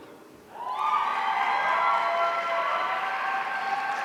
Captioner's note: audience cheering